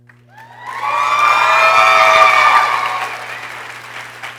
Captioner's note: people cheering